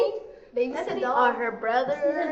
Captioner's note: laughs